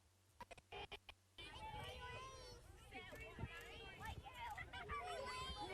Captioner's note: children murmuring